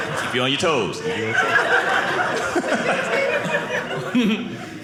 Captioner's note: audience laughing